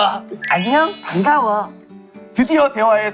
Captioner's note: Ppowoo with sweet voice